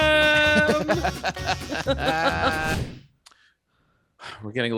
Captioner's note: group laughs